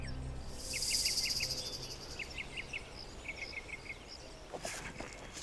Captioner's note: tense music; birds chirping